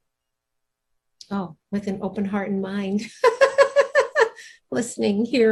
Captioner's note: laughs